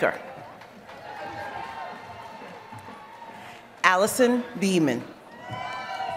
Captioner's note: applause; applause